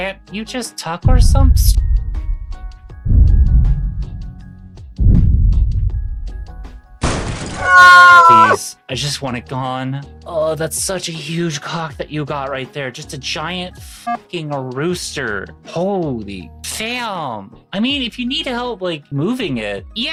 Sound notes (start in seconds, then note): 1.6 dramatic music; 5.6 gun fires; 7.5 screams